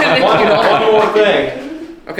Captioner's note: laughing